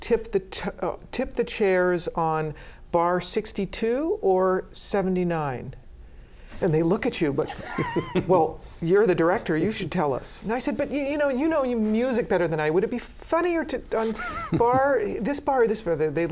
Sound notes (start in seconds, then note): 7.4 laughter